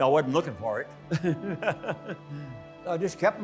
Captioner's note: laughing